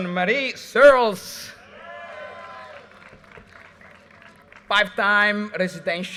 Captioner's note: audience cheers and applause